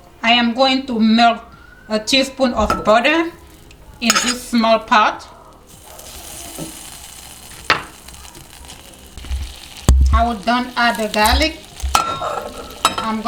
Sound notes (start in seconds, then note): 6.1 butter sizzling